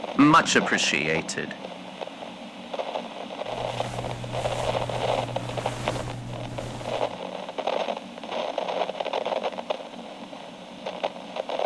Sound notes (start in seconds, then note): 3.5 cover being pulled back fx